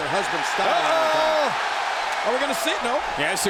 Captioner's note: crowd cheers